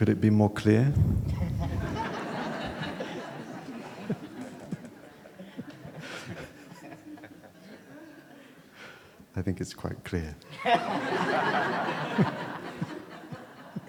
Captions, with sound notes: Could it be more clear? [laughter] I think it's quite clear.